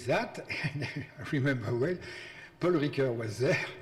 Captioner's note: laughs